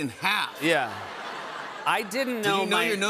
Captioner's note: laughter